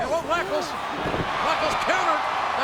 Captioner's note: audience cheering